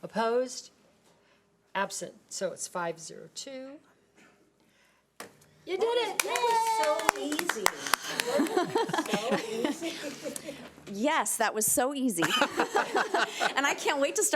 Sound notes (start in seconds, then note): 8.2 board applauding